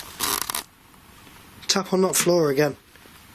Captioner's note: creaking